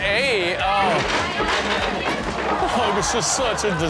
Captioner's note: chair crashing